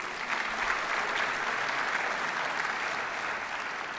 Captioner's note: applause